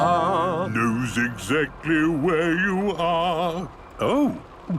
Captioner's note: mimicking tune